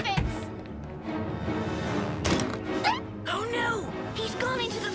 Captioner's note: door opens